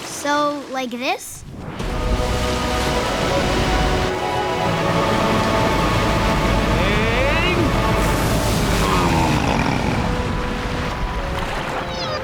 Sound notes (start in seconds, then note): 8.6 grunting